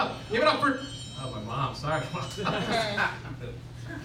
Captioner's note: phoine rings